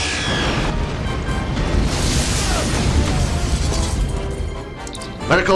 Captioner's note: explosion